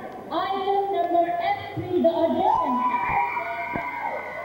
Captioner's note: audience cheering